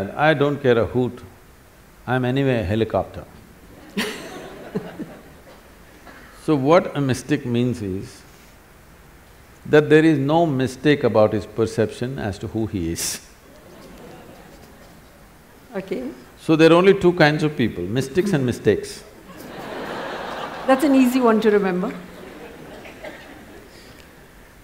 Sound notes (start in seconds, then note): 3.7 laughter; 13.5 laughter; 13.5 laughs; 19.2 laughter